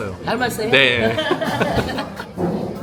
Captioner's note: chuckles